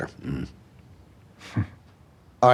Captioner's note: chuckles humorlessly